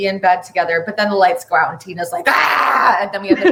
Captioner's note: groans aggressively